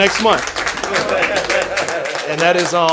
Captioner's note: crowd applauding